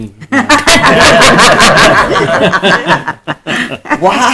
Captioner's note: group laughter